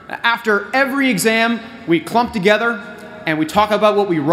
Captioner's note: none